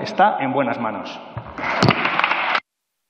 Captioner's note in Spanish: Aplausos